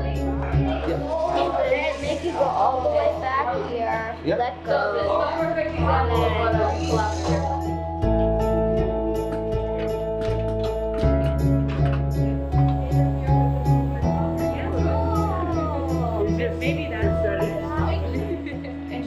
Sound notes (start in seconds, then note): 15.1 laughter